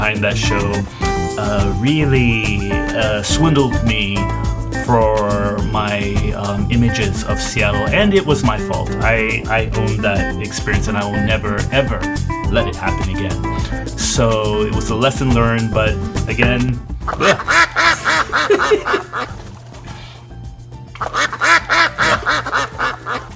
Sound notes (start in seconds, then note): 15.3 duck quacking; 18.3 laughs